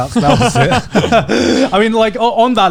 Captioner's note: Joey and Garnt laughing